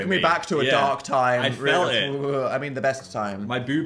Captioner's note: Dan shudders